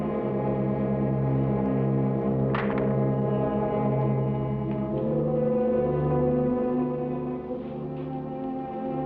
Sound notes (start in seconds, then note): 2.3 rifle thuds